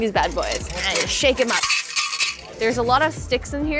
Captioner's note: container clattering